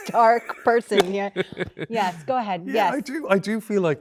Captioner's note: Andrew laughs